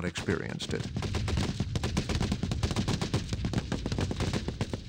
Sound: rapid, continuous gunfire

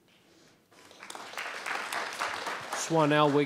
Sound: audience applauding

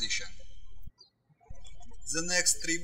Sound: birds chirping

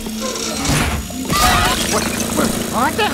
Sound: horrific screaming

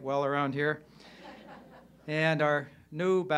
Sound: crowd laughing

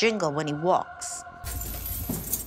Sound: keys jingling

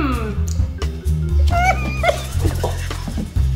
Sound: laughs

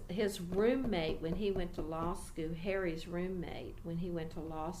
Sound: begins tapping table for emphasis

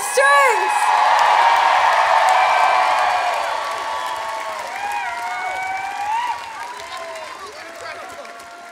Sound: audience cheering

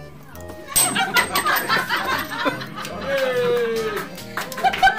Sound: coin clinking; people laughing; people applauding; people cheering

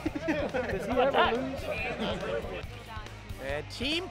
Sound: laughter

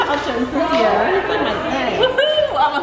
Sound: laughing

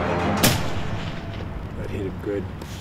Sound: gun firing

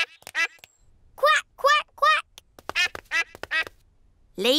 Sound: ducklings quack; ducklings quack

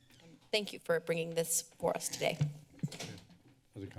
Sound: door opens; door closes

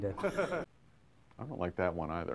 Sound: camera man laughing

